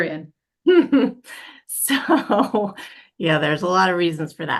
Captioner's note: laughs